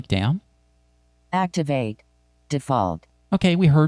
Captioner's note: automated Female Voice